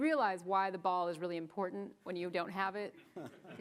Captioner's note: chuckles